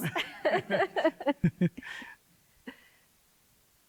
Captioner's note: both laughing